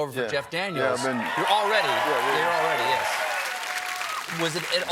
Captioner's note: applause